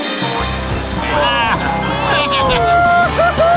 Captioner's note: baaing